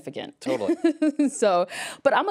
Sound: laughs

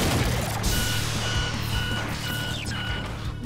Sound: alarms blaring

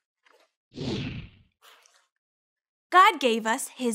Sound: whooshing

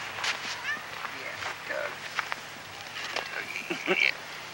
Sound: cat meows

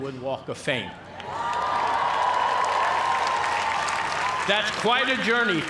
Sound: cheers and applause

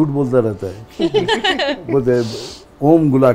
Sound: laughs

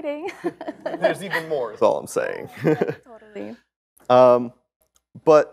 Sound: laughter

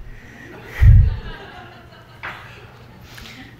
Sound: everyone laughs

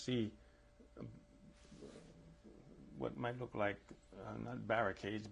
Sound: pauses for 3 seconds

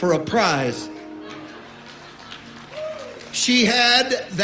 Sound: audience cheers and applauds

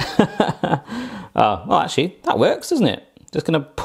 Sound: laughs

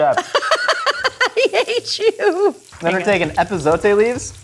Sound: laughing

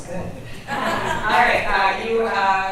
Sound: group chuckles

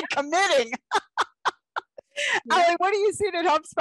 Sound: laughter

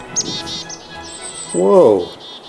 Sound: birdsong

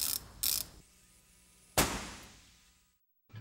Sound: bang!

